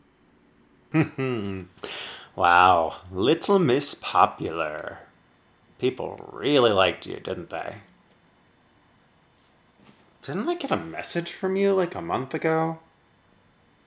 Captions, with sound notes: *chuckles* Wow, little miss popular. People really liked you, didn’t they? Didn’t I get a message from you like a month ago?